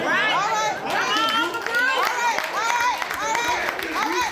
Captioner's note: applause